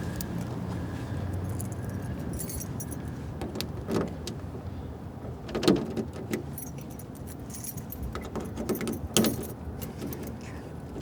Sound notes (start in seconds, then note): 1.4 key rattling